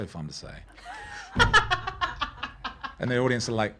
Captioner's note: laughing